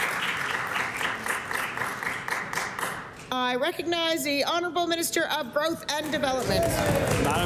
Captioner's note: applause